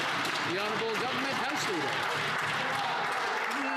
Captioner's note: some Applause